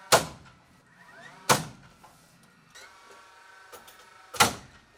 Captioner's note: nail gun popping